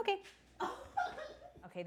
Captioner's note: laughing